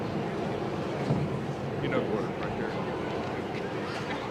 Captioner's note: audience chatter